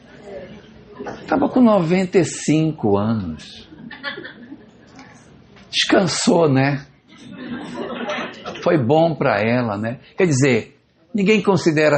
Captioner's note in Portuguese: risadas